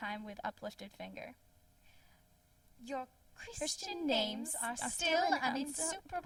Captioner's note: speaking together